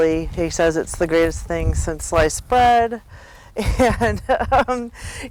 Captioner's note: laughs